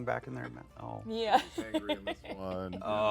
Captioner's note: laughs